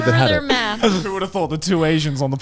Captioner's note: all laughing